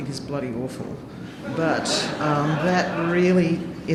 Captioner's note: audience laughing